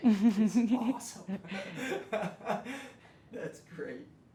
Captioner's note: laughs